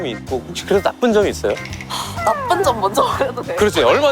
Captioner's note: deep Sigh